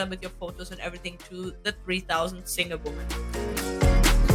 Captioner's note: Latin